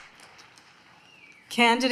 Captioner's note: applause